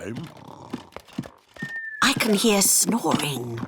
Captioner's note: snoring